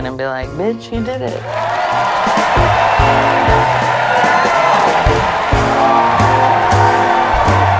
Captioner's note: jazzy music; audience cheering